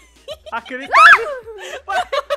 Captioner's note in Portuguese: grita; Todos riem